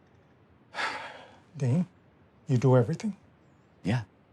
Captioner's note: sighs